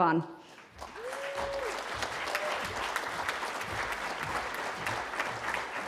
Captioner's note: cheering